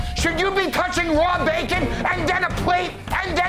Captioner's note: none